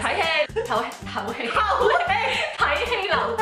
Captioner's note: breathing